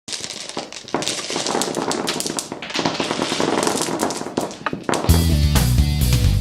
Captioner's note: dice falling